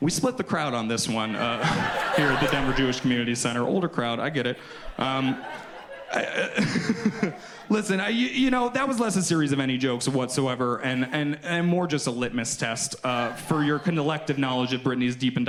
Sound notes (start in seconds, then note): 5.5 laughs